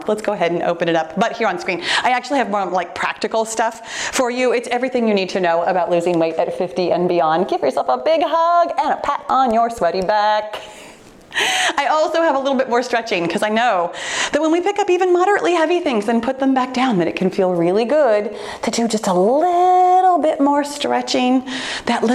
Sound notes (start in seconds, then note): 10.5 laughing